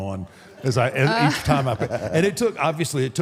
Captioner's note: AJ laughs